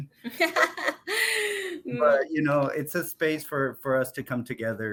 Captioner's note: laughs